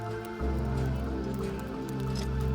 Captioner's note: fire crackling